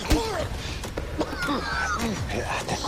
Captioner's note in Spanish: Quejido